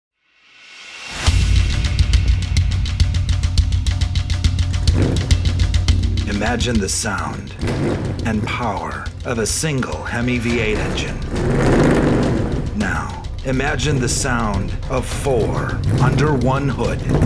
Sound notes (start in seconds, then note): 0.0 dramatic music; 5.0 car engine revs; 11.1 car engine roars; 17.0 car engine revs